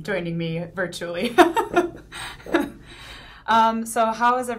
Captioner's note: laughing